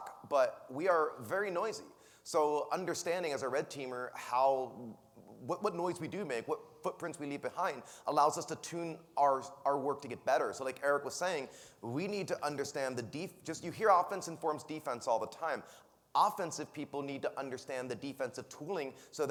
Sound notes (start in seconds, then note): none